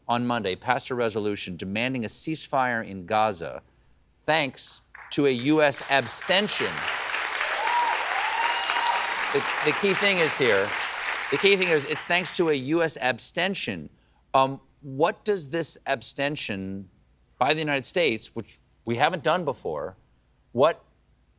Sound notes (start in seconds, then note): 5.5 applause